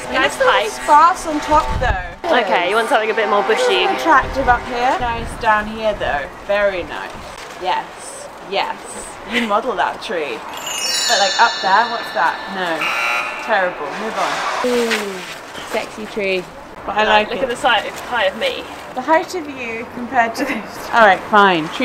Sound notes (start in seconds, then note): 10.5 'Sparkly' sound effect; 12.8 buzzer sounds